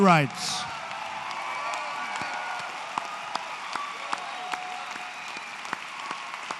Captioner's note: applause